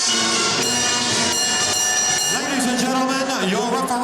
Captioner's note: bell ringing